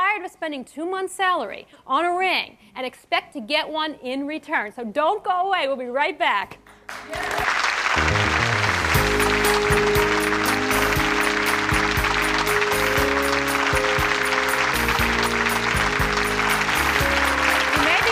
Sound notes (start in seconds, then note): 7.5 clapping; 7.8 theme music